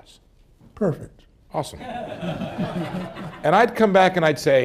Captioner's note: laughter